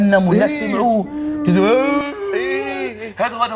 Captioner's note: making a strange voice